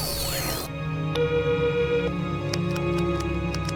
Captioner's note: device screeching; device beeping; keyboard clacking